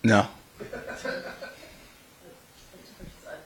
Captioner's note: laugh